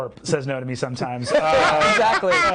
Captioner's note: others laughing